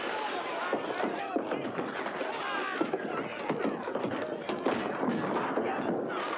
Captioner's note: window smashing; yelling & commotion; thump